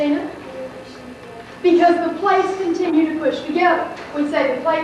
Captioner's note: student answers quietly